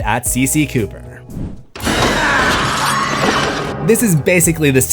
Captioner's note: screams